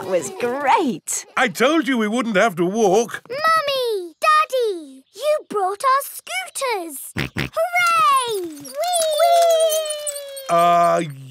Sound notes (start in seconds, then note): 7.2 snorts